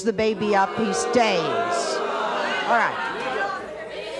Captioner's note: audience booing